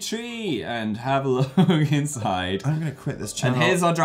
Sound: giggles

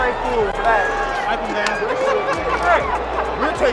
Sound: person laughs

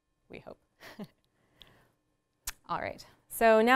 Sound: laughs

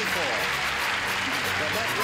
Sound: applause

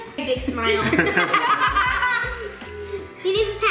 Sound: laughing

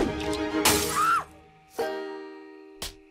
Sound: woman screams

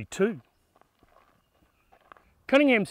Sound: footsteps on gravel

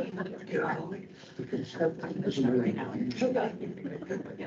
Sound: group chatter indistinct

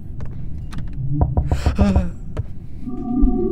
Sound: on edge scared noise

